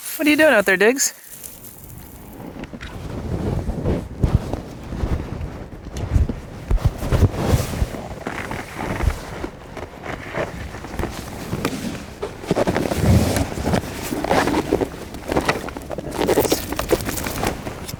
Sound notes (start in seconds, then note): 3.5 equipment rustling; 15.1 snow crunching